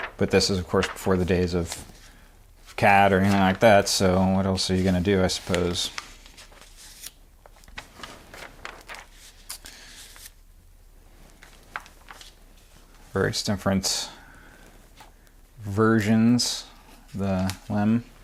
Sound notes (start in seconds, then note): 7.4 pages flapping